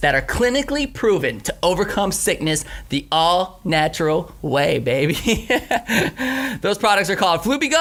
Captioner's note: laughs